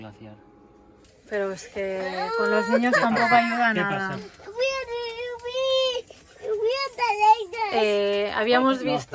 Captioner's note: crying